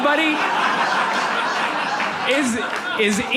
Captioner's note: audience laughs